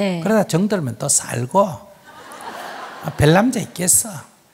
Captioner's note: audience laughs